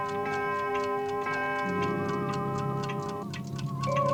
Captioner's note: clocks continue ticking; clock continues tolling; eerie music